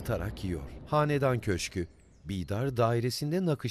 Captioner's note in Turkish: Kuş cıvıltısı sesi